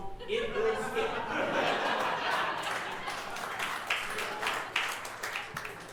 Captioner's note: audience laughing and clapping